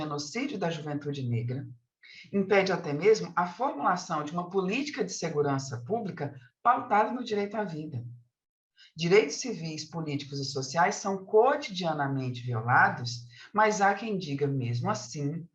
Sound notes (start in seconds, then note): 0.8 continues speaking in Portuguese